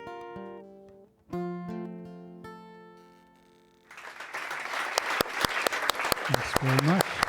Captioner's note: guitar music; applause